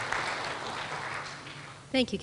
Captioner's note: applause